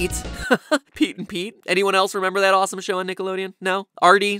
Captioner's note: giggle